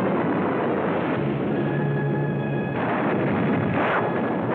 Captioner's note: explosions